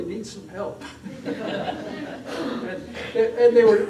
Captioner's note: laughter